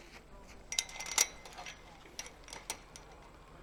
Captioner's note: mesh clanks